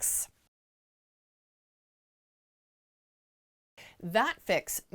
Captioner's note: no Sound Present